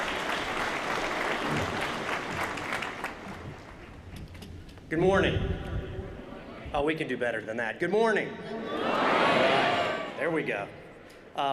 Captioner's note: applause